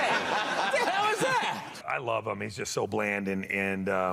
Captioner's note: laughter